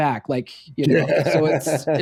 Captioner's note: laughing